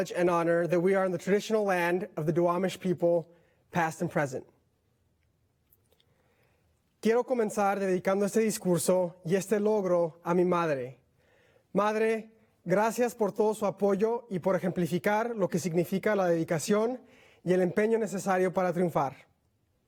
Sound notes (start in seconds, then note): 6.3 speaking in Spanish